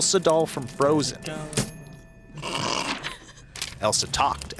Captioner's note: laughs